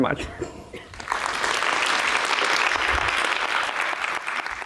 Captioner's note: audience clapping